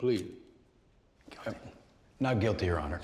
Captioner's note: whispering